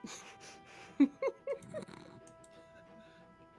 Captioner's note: chuckling